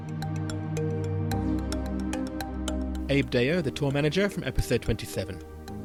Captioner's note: voiceover